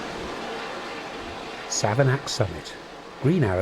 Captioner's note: none